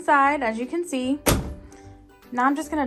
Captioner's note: door bangs